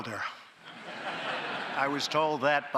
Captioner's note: laughter